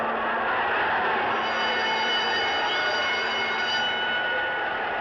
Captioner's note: bell Ringing